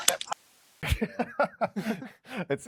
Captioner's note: laughs